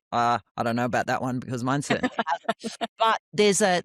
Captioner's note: laughs